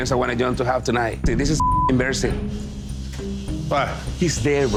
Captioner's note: beep